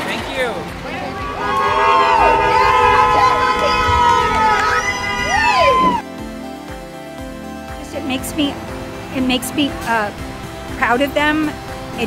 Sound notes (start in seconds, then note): 0.8 cars honking; 7.8 upbeat music